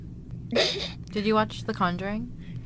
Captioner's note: sneezes